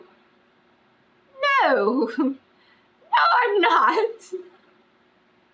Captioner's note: laughs